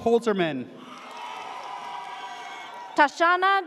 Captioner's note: audience cheers